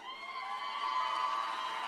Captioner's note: cheers and applause